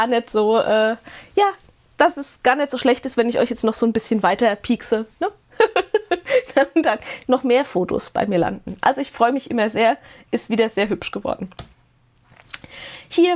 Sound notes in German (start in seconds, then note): 5.5 gelächter